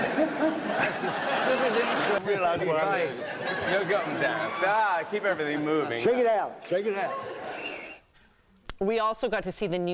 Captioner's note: laughter